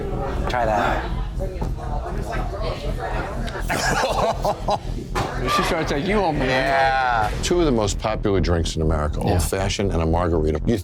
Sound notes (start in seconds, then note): 3.6 laughter